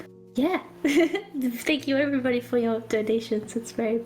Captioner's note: giggles